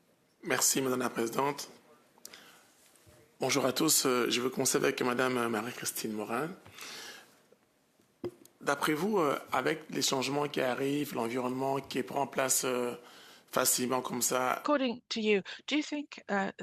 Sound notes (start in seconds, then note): 3.7 speaking French